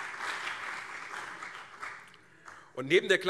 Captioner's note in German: Beifall CDU und SPD